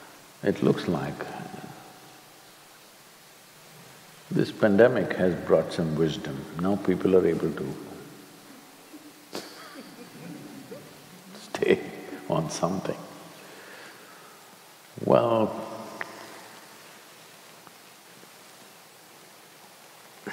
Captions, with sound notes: It looks like this pandemic has brought some wisdom. Now people are able to (Few laugh) stay on something. Well,